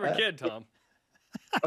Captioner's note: laughing